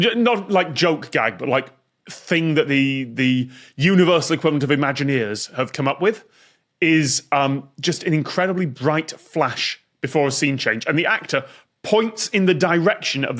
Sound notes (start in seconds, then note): none